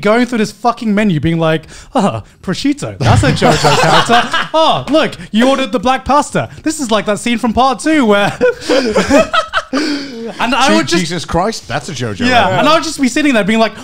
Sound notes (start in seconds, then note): 8.1 men laughing